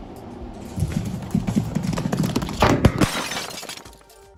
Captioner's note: glass breaking